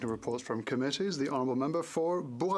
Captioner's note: speaking FRENCH